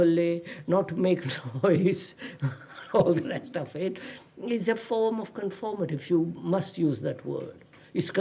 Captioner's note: laughs